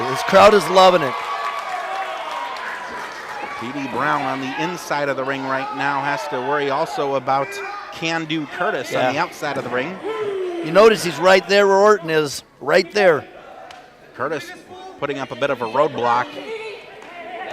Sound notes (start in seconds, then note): 1.6 crowd cheers; 10.3 shouting